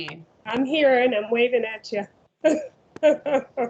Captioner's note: laughs